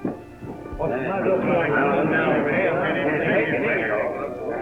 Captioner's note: crowd chatters